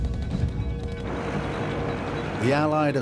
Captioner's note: airplane moving on the ground